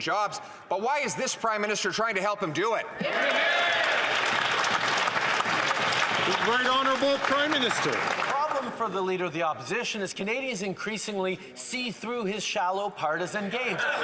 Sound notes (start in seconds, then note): 5.9 some Applause